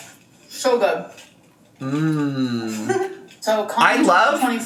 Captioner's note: moaning